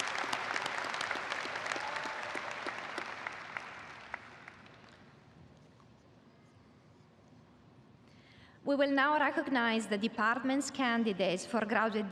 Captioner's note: applause